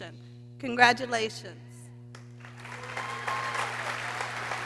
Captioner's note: people cheering